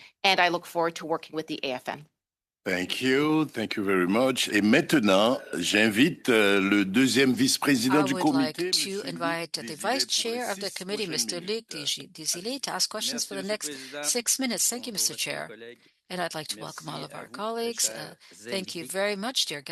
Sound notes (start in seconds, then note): 11.7 speaking French